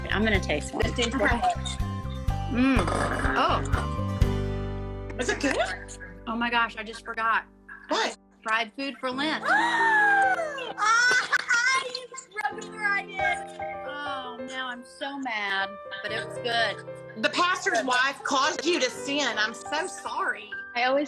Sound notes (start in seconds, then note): 9.4 laughter in background; 9.5 gasps in shock